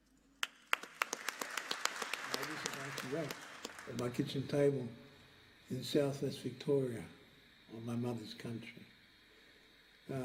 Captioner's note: applause